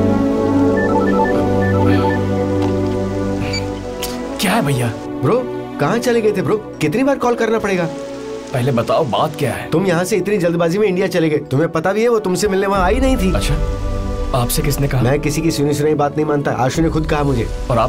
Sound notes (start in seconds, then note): 0.7 mobile phone ringing